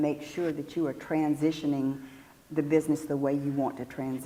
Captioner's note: none